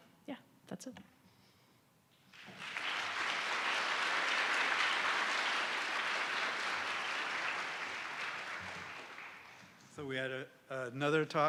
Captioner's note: applause